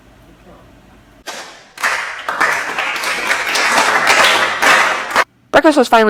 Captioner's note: slow claps